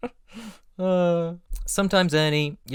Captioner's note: laughter; dreamy sigh